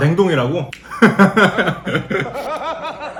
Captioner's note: laughing at his own joke